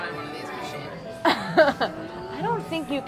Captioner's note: laughs